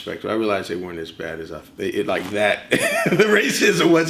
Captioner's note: laughs